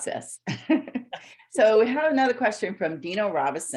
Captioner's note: laughs